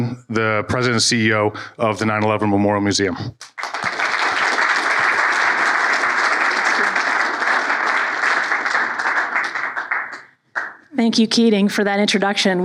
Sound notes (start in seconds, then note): 3.4 applause